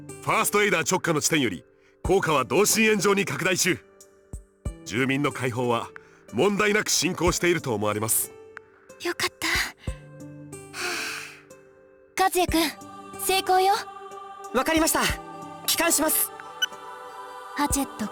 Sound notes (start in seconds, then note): 10.8 relieved sigh